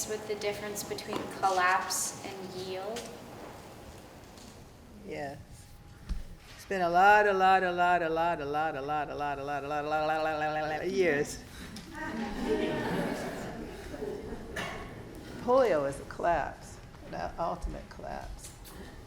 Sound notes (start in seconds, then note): 11.7 students laughing